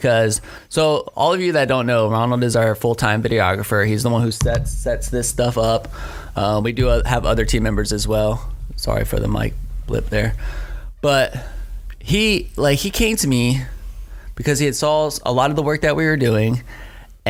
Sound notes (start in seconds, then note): 4.0 microphone thudding